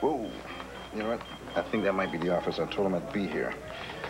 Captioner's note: beeper